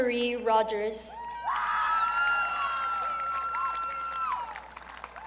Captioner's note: audience cheering